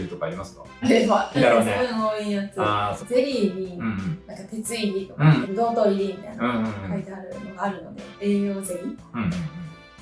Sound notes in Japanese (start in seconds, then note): 3.8 咳払い